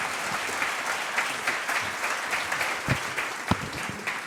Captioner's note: audience applauds